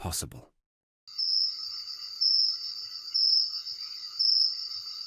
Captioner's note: crickets chirping